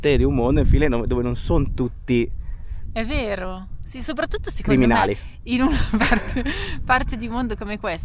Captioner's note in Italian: risate